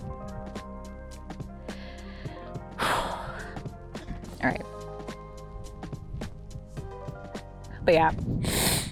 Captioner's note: deep exhale